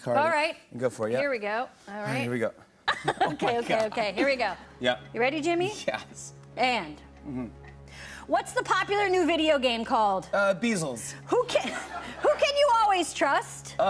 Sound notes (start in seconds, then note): 2.9 laughs